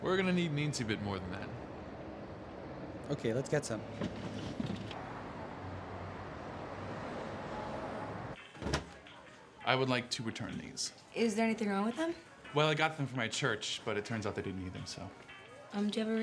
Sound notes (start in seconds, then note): 4.4 car doors clicking; 8.6 group chattering; 8.6 upbeat music